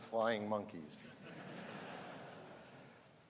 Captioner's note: laughter